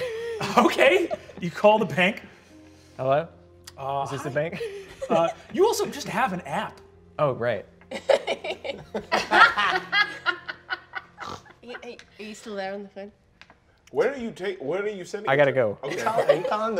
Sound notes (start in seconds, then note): 0.1 laughing; 7.9 all laughing